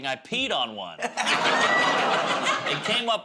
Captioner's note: laughter